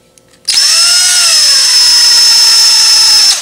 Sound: drilling

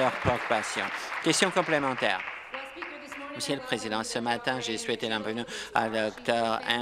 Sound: applause

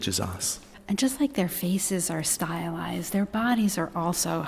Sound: voiceover

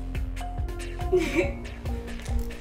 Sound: laughs

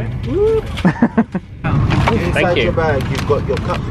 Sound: laughs

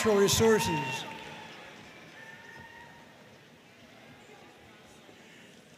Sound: audience cheering and applauding

